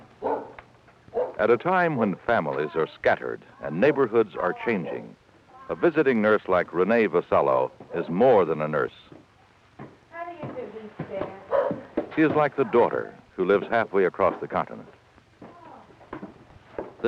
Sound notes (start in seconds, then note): 0.2 barking; 8.9 footsteps ascending staircase